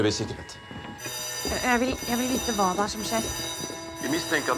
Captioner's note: alarms blaring